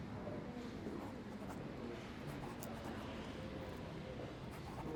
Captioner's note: pen scratches on paper